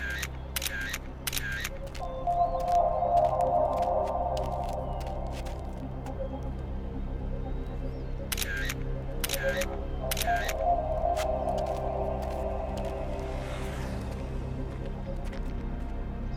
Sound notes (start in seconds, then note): 0.6 camera clicking; 2.6 mysterious music; 8.3 camera clicking